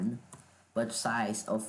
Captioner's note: uhhhhhh